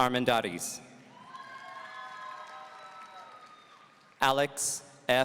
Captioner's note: audience cheering